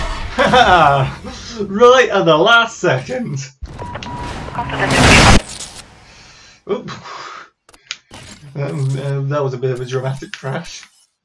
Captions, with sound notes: (laughs) Right at the last second! (crash) Oop... that was a bit of a dramatic crash.